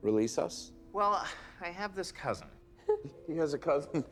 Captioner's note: shane giggles